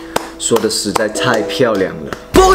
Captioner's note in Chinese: 还在继续拍手